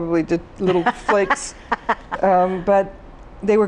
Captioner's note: laughs